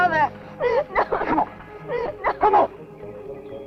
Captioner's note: crying; tense music continues